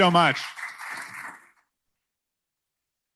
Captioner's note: applause